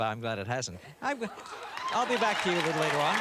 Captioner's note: cheers and applause